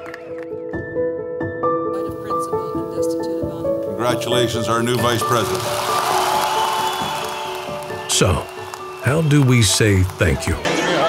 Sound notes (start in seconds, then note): 0.2 gentle music; 5.0 applause